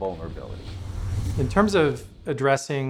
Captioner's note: whooshing